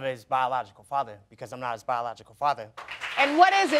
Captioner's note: audience applauding